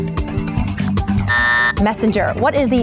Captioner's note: timer buzzes